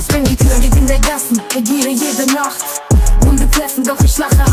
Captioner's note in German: Record scratch; Record scratch